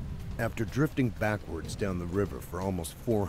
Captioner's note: voiceover